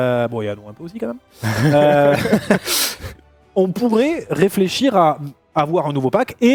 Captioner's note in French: rires